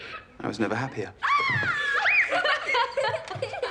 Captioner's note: playful screams, laughter; laughter continues